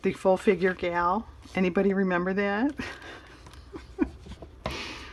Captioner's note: laughs